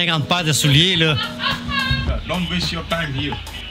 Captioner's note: laughs